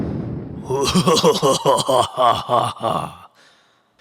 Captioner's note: evil Laughter